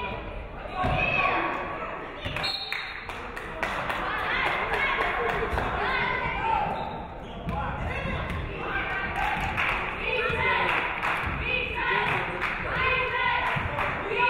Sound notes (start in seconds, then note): 2.4 referee whistles; 3.0 audience clapping